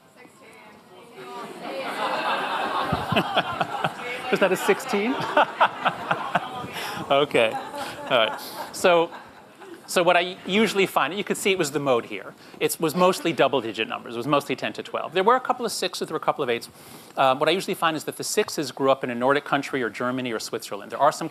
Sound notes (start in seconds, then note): 2.7 Jon laughs